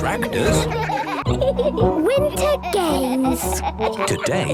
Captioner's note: giggling